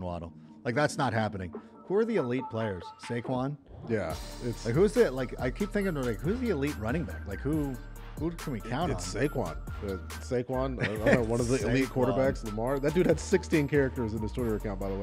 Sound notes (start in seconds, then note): 10.7 laughter